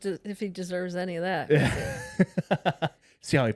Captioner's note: both laughing